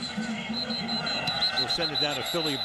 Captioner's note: whistle